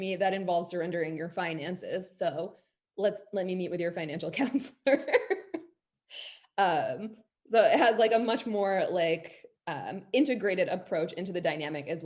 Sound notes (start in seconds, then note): 4.4 laughs